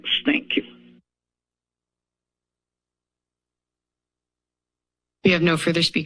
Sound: silence

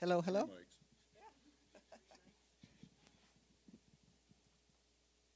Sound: laughing

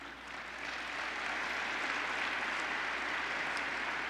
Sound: applause

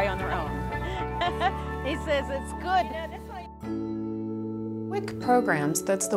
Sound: laughs

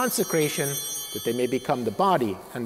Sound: bell ringing

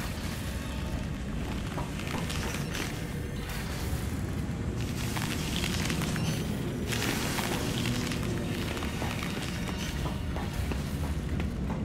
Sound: footsteps

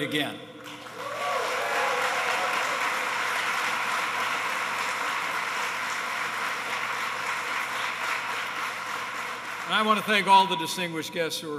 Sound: applause

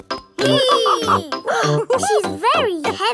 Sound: both straining; madam gazelle laughing; giggles

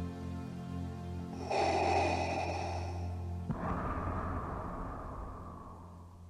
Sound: Vader breathing

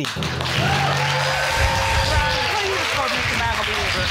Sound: audience cheering and applauding

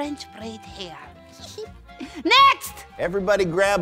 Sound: giggles

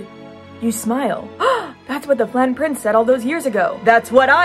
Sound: gasp

